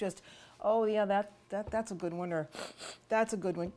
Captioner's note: smelling